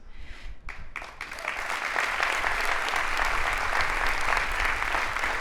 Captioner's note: audience applauding